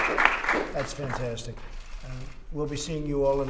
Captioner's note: applause